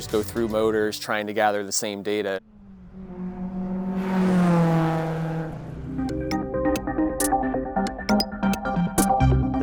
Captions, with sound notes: go through motors, trying to gather the same data. (car sounds) (techy music)